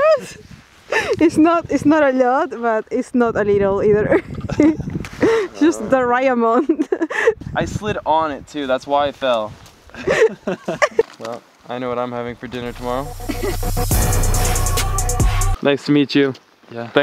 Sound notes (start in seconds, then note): 0.0 laughing drowns out speech; 9.9 laughter; 12.6 energetic music